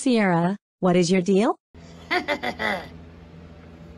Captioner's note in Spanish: Caprice se ríe malvadamente